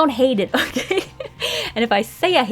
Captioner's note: laughs, deep inhale